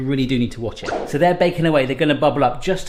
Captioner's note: whoosh